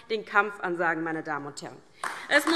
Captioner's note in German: Beifall DIE LINKE